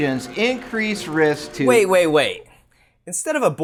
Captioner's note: projector sound stops